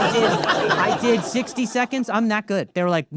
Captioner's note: audience laughing